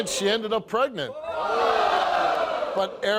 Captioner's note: audience gasping